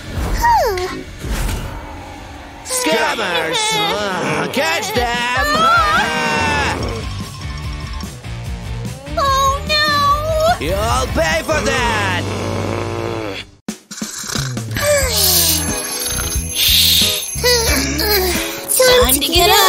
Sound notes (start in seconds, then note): 7.3 snoring; 7.5 groaning; 8.3 yawning and stretching; 16.2 deep sigh